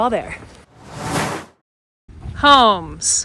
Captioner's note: air whooshes